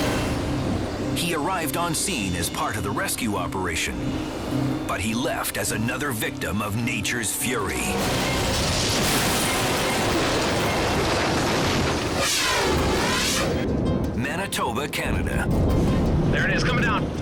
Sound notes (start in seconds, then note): 7.4 tree rumbles; 7.8 firetruck clashes; 12.1 air whooshes